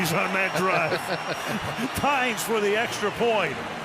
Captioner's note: laughter